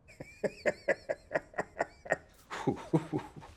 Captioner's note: man laughing